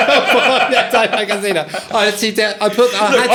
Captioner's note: laughing